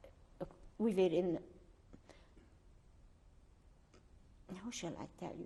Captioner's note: pauses for 3 seconds